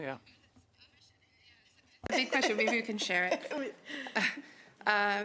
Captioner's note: laughter